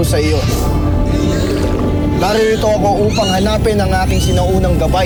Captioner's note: squeaks & squawks